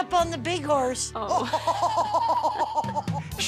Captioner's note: laughs